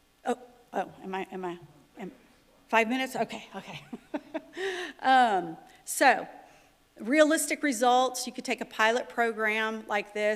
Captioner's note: laughter